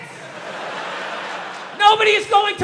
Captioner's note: crowd laughs